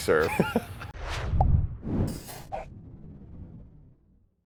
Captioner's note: chuckles